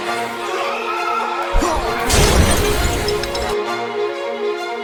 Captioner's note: suspenseful music; Thug yelling